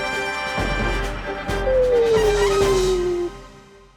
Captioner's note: sleep noises